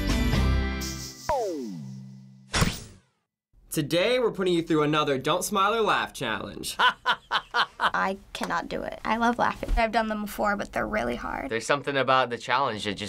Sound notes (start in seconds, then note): 6.7 laughing